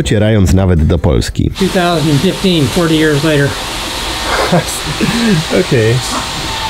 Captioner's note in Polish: śmiech